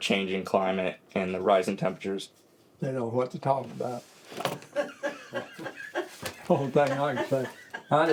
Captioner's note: laughter